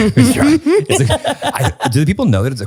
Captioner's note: both giggle